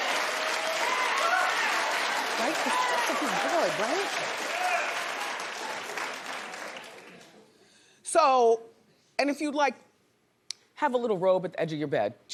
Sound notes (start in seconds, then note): 0.0 cheers and applause; 0.0 audience reacts